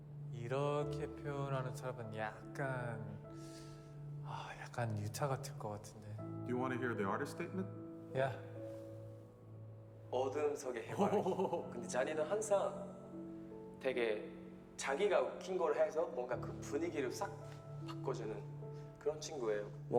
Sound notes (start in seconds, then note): 8.0 in English